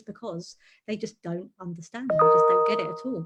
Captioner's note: notification ping